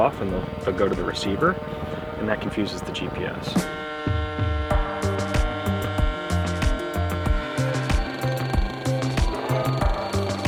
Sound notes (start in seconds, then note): 5.2 drone whirring; 6.5 upbeat music